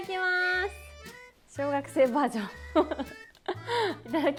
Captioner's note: laughs